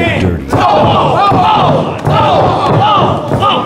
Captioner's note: audience cheering